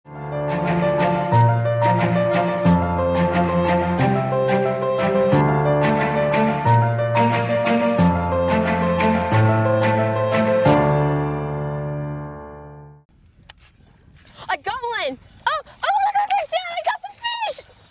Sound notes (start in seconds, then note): 13.2 reel snaping